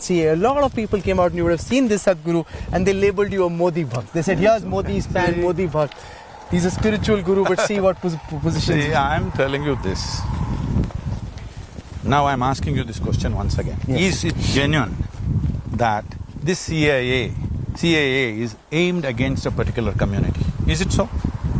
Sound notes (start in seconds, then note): 7.2 laughs